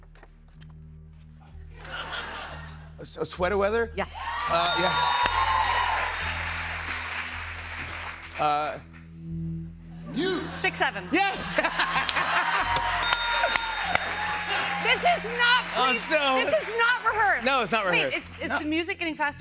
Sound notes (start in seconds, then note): 1.8 laughter; 4.1 cheers and applause; 4.6 ding; 10.0 laughs; 11.7 cheers and applause; 13.0 ding